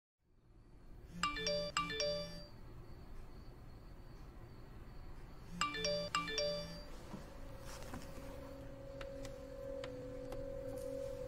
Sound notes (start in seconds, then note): 1.2 phone chime; 8.3 dramatic music